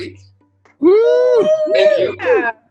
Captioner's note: crowd cheers